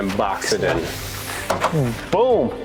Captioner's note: towel swishes